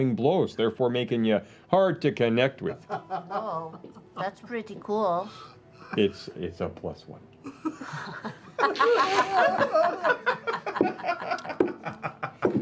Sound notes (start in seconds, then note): 5.5 whispers; 7.4 laughter